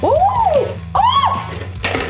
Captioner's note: screaming